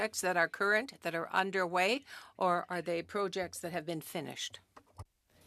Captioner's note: speaking French